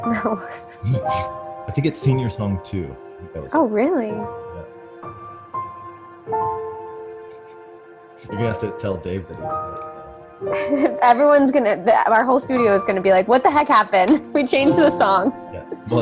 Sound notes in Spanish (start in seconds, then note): 9.6 speaks faintly